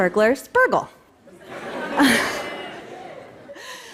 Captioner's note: laughter